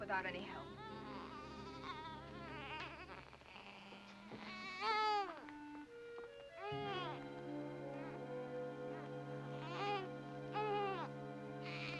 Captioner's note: baby cries